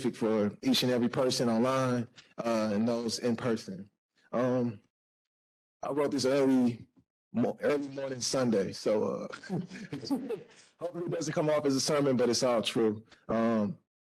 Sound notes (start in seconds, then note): 9.1 laughs